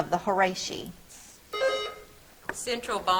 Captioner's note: buzzer trills